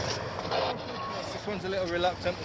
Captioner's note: radio scratching